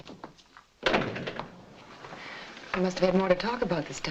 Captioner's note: door thuds shut